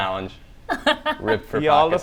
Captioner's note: laughs